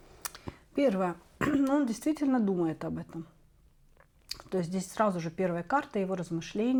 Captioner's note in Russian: откашливается